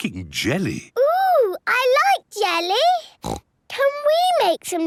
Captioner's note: snorts